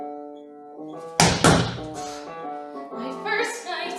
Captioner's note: stomping